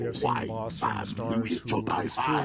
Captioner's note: speaking foreign language